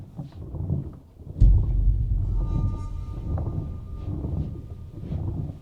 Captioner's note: distant rumble